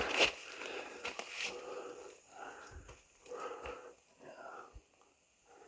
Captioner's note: leaves crunching